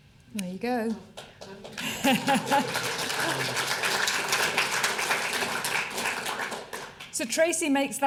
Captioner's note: applause